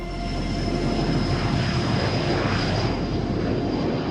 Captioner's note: plane taking off